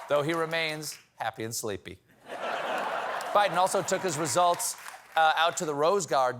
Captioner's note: laughter